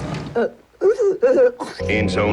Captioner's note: woman gags